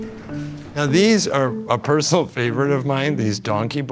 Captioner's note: laughing